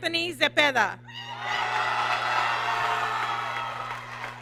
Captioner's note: applause